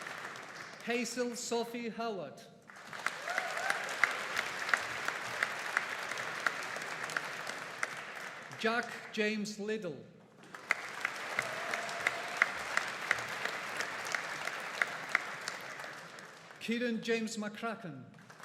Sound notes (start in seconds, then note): 2.7 audience applauding; 10.4 audience applauding; 18.2 audience applauding